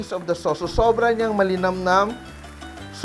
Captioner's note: sizzle